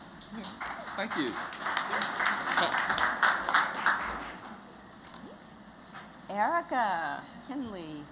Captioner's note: �applause�